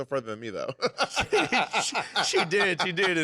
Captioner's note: laughter